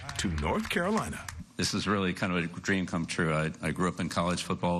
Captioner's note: claps